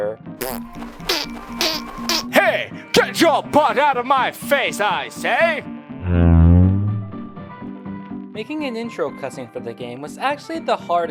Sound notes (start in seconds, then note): 0.4 random farting noises; 6.0 loud deep fart